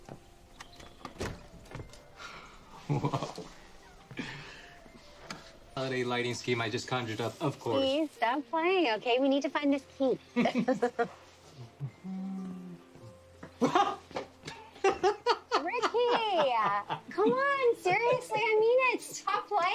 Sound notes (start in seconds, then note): 2.7 chuckles; 10.4 both chuckle; 11.8 humming; 12.6 shrieks; 14.4 laughing